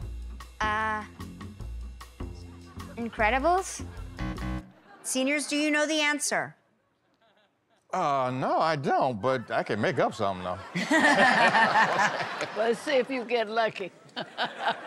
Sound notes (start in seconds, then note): 3.9 buzzer; 9.3 laughter